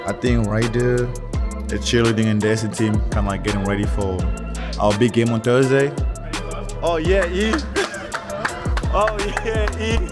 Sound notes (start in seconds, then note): 7.4 friend clapping